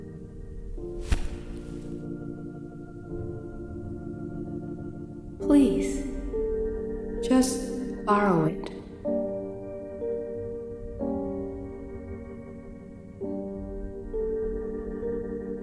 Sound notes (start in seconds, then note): 1.0 book thuds